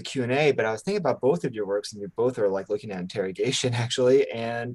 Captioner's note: chuckles